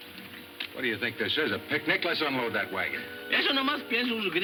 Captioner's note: speaking foreign language